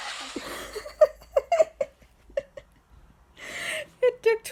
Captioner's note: giggling